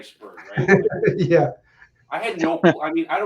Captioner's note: laughing